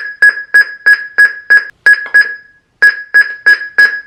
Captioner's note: loud beeping